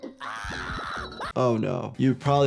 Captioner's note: squirrel yelling